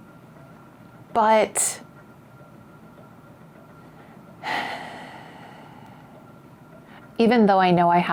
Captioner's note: sighs